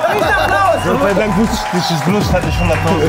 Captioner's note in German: Jubel, Applaus; Gemurmel, Pfiffe